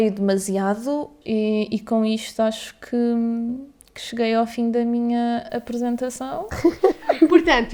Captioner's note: laughs